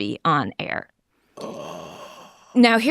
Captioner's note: gasps